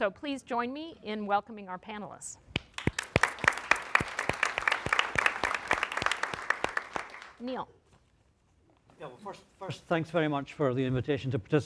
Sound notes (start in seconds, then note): 2.5 audience clapping